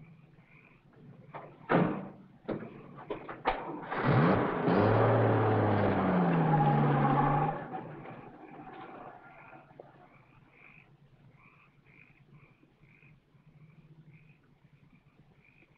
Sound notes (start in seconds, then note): 3.8 motor revs; 11.0 frogs croaking